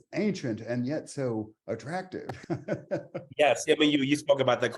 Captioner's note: chuckles